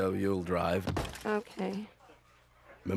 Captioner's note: thud